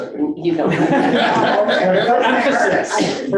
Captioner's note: board members laughing